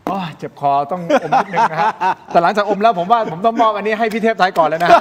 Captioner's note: laughter